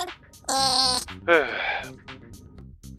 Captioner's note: sighs